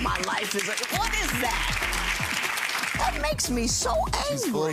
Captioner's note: audience applauds